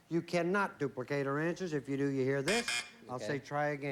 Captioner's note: buzz buzz